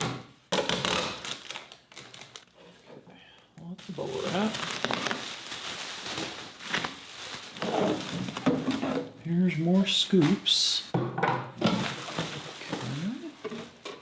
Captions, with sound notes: (tape rustling) Okay, lots of bubble wrap. (bubble wrap rustling) Here's more scoops, okay. (scoops thumping)